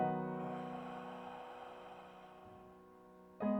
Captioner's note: exhale